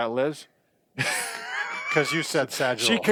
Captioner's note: laughs